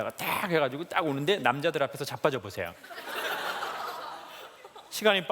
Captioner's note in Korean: 웃음